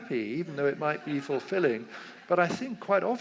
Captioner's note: audience laughs